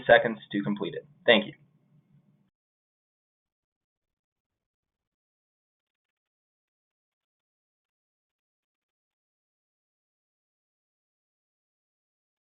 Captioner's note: silence